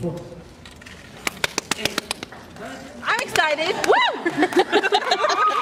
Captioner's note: applauds, cheers; 1 person applauds, cheers